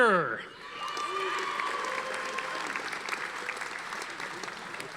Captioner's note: audience applauding